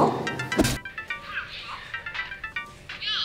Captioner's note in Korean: 스마트폰 소리